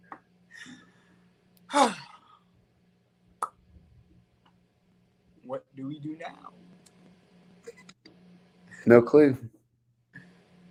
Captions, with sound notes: (Liam sighs) - What do we do now? - No clue.